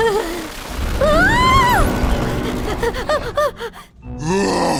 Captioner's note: laughs nervously; screams; panting; growls